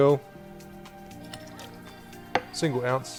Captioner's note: liquid pours; clinks